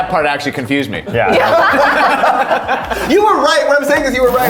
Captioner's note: all laughing